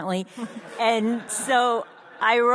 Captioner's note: audience laughs